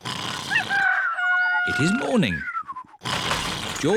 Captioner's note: cockerel crows